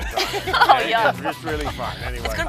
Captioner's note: laughter